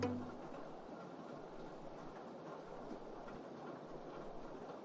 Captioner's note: rainfall